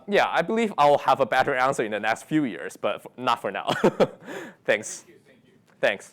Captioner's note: chuckles